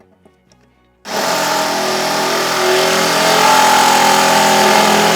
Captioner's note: drill humming